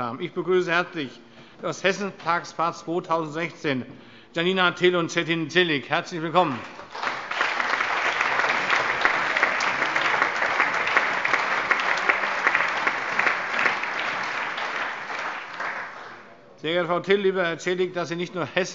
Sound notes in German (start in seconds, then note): 6.4 Allgemeiner Beifall